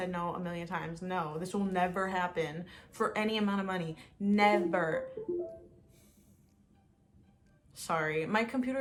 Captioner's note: windows computer noise